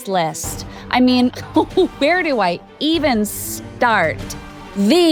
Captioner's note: chuckling